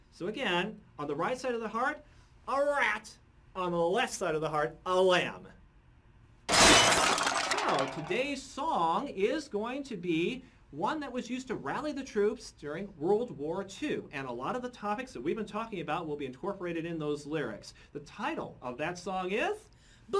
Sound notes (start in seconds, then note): 6.5 crash